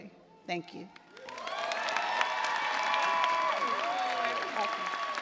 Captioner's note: cheers and applause